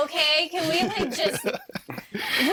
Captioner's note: all laughing